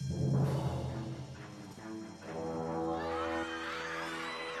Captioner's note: alarm ringing; all screaming